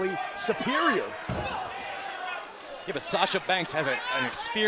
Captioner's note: crowd chatter